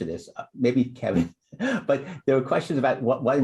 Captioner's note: laughter